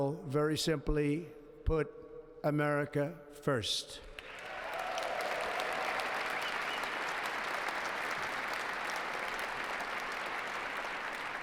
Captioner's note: applause